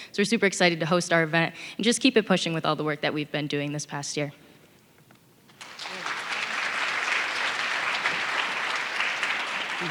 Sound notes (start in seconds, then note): 5.5 audience clapping